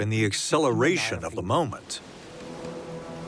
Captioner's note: waves crashing